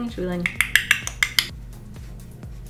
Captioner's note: makes button pushing noises